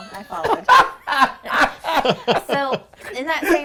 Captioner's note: laughing